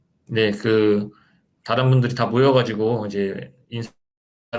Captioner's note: speaking Korean